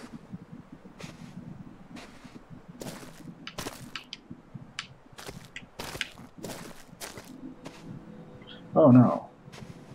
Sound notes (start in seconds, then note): 3.4 squelch